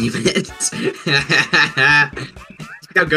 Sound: laughing

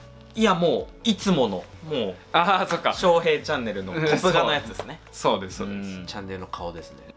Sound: laughs

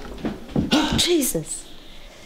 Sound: gasps loudly

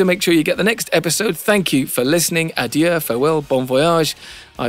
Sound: foreign Language

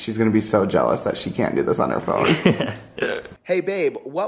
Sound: laughs

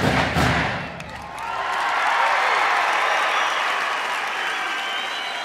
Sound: people cheering

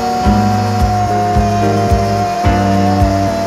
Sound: grinder tool grinding; happy/Upbeat Music

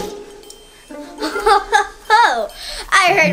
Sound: evil Assistant laughing

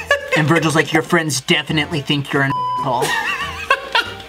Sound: beep; laughs

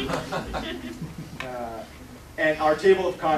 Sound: laughter

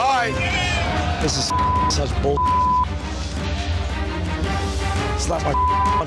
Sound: beep; beep

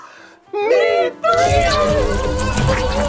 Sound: loud buzzing

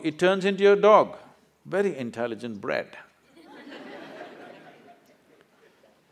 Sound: laughter

